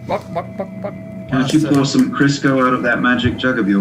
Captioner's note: chicken noises